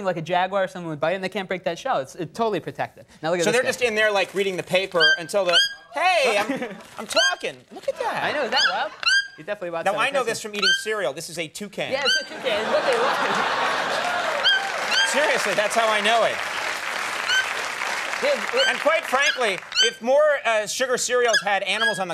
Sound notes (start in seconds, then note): 5.4 bird chirping; 12.1 audience laughing and applauding